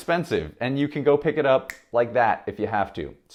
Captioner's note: finger snapping